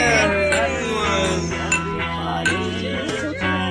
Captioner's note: clinking glass